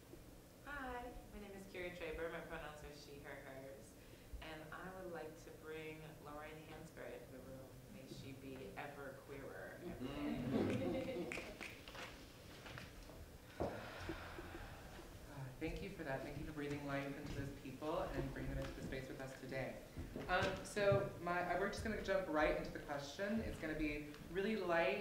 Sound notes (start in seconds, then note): 10.3 laughter